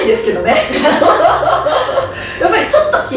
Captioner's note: haha